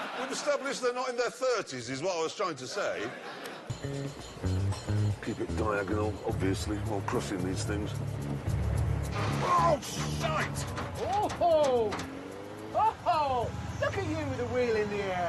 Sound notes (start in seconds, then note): 8.0 creaking